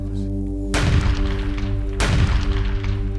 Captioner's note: gunshots